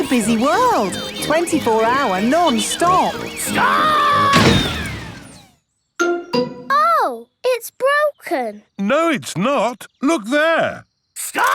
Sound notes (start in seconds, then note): 4.2 thuds